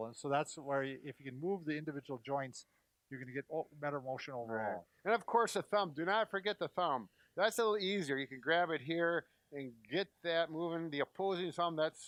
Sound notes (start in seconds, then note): none